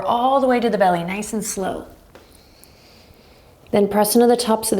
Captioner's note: deep breaths